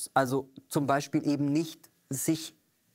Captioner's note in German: none